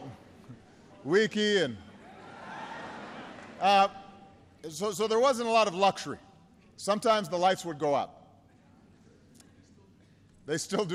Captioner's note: people laugh